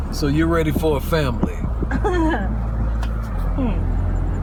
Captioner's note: Emily laughs